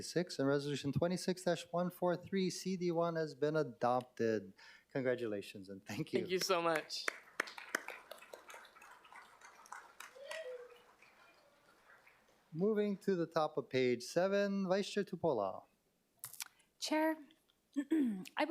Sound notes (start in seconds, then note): 10.5 applause